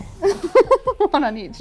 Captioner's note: laughs